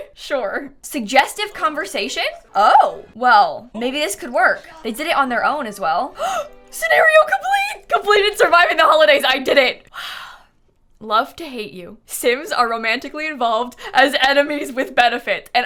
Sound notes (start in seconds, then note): 6.1 gasps